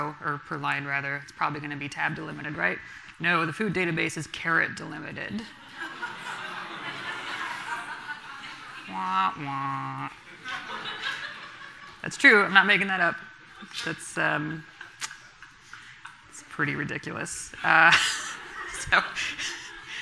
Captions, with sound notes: per line rather. It's probably going to be tab delimited, right? No, the food database is carrot delimited. (audience laughing) That's true. I'm not making that up. It's pretty ridiculous. (laughs)